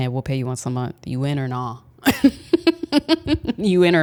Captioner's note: laughs